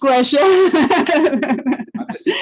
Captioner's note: laughs